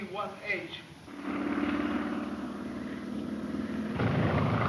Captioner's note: plane engine roars